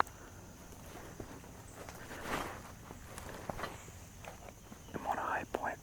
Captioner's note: birds and bugs chirping; equipment shuffling